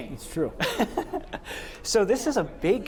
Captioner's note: laughter